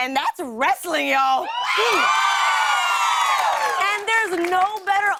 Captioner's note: cheers and applause